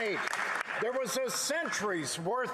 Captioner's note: some Applause